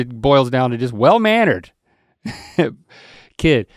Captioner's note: chuckles